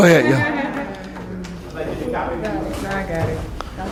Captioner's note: laughter